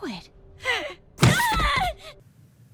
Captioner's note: gasp; pained groans